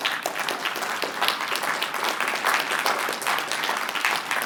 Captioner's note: applause